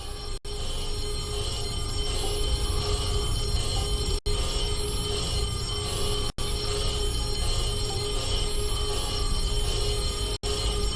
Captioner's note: alarms & Bells